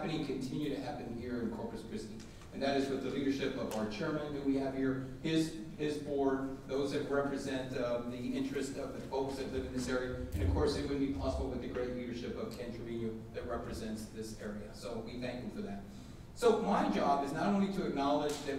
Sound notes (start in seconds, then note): none